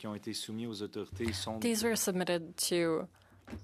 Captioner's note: speaking in French